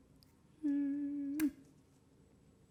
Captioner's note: blowing kiss